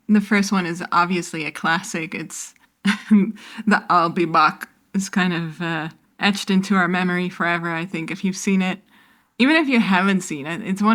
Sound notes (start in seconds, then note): 3.5 with Arnold Schwarzenegger accent